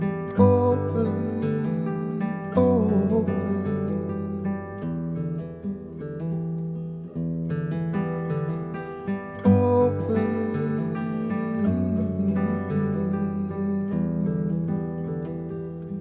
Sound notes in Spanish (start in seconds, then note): 11.5 tarareando